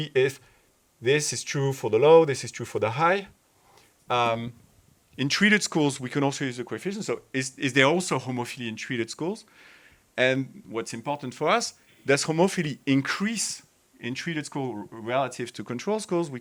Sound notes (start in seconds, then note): none